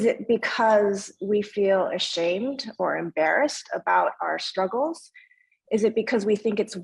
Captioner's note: speaking in foreign language